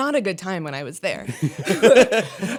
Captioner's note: laughter